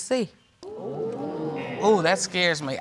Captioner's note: audience exclaiming